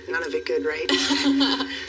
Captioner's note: Layla laughghs